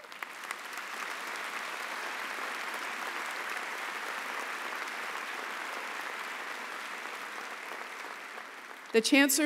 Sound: applause

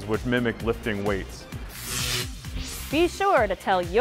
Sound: sound Effects

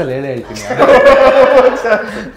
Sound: laughing

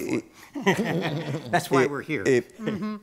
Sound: chuckles

